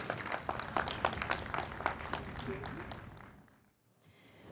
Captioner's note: audience applauds